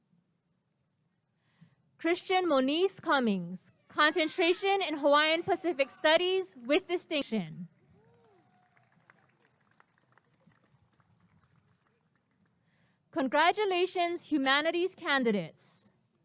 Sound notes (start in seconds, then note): 7.7 applause and cheering